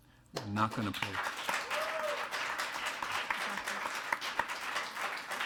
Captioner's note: attendees applauding